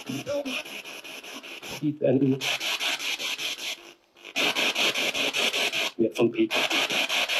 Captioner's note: radio noise from the spirit box